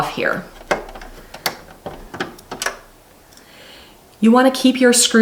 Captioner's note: screwdriver twists screw